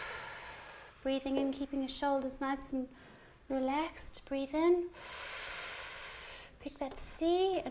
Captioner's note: breathes deeply; breathes deeply